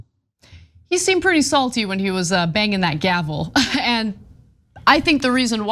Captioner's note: laugh